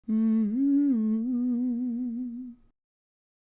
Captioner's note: intro humming